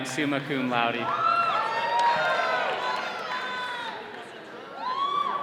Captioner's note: all cheering